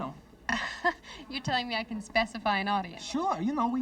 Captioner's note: laughs